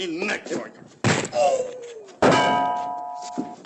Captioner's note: thudding